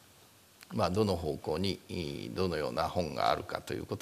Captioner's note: speaking japanese